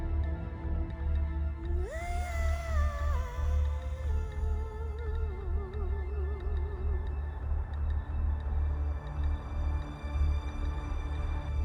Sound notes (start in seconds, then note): 7.1 car humming faintly